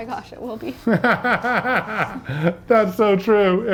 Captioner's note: laughing